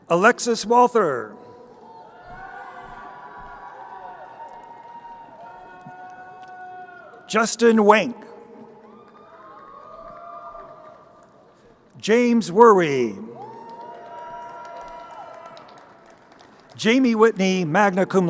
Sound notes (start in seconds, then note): 2.1 crowd cheering; 13.6 crowd cheering